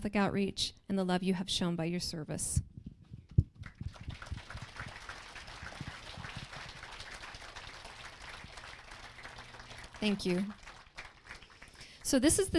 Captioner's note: applause